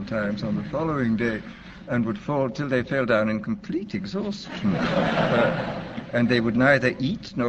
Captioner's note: laughter